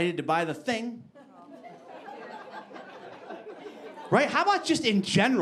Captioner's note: audience laughing